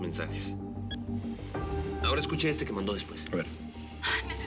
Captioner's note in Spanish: Bip